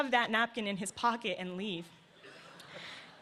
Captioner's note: laughter